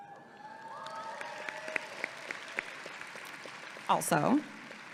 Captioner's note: audience applauding and cheering